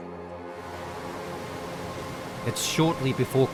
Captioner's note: gentle music; water whooshing